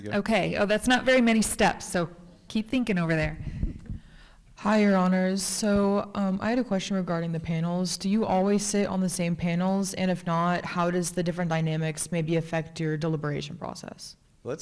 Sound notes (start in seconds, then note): 3.6 chuckles